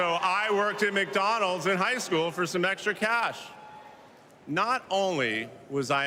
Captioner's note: cheers and applause